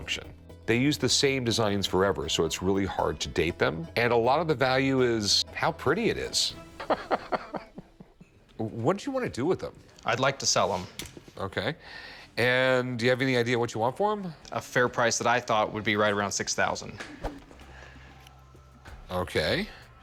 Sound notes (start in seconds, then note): 6.7 laughs